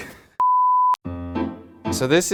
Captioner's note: loud beeping